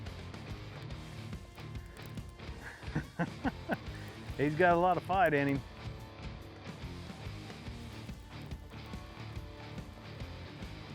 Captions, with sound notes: (laughs) He's got a lot of fight in him. (rock music)